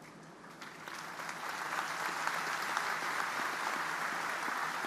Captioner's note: audience applause